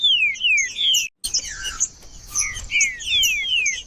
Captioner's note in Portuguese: trinca ferro cantando